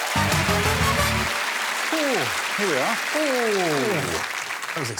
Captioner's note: cheers and applause